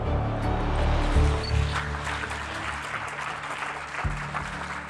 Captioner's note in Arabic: الجمهور يصفق